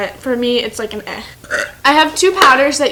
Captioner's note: burp